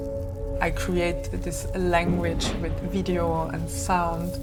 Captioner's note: thump whoosh